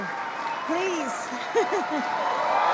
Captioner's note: laughs; applause